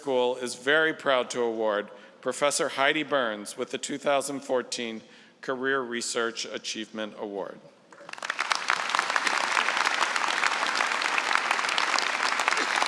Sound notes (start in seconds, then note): 7.9 applause